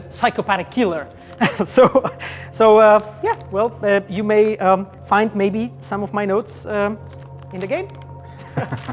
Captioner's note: laughter; laughter